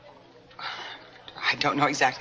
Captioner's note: Sylvia sighs